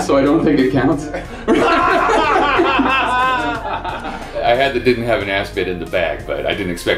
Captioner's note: laughter